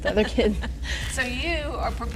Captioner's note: laughter